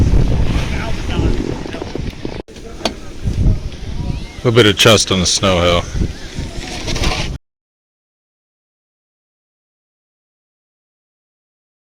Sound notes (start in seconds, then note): 2.4 crowd noise